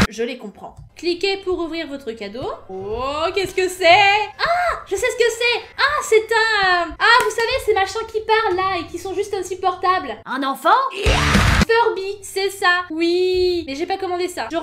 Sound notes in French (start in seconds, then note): none